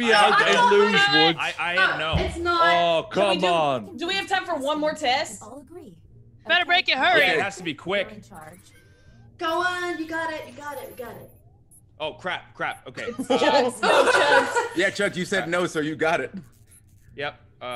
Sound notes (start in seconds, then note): 12.9 laugh